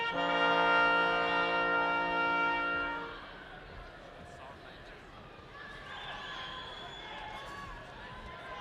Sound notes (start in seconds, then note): 3.9 people chattering distantly